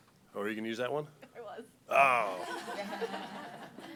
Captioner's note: laughter